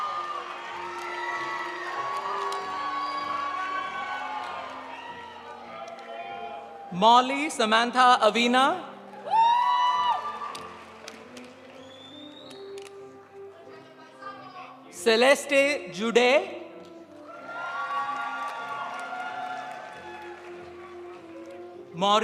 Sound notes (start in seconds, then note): 9.0 audience applauding; 9.2 audience cheering; 14.0 guest speaking in foreign language; 17.2 audience applauding; 17.3 audience cheering